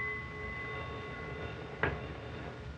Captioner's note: bell dinging; phone ringing